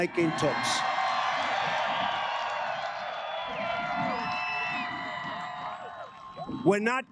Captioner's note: cheers and applause